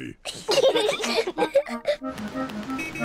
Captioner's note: both giggling